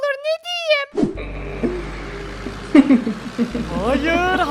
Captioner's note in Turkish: Gülme sesi